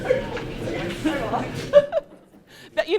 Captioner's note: laughs; laughter